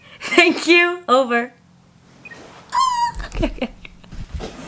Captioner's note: chuckles